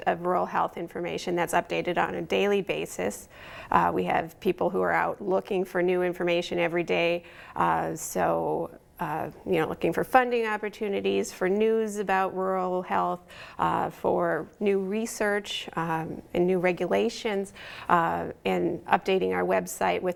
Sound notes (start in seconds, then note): none